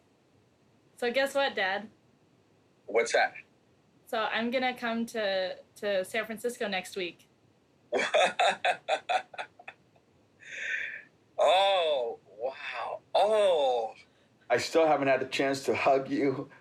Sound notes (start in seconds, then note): 7.9 chuckles